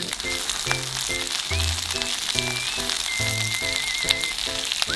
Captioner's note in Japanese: 鼻歌